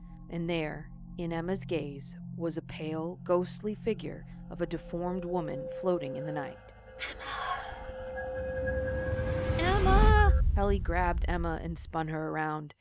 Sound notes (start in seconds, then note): 7.0 ghostly voice; 8.1 music intensifies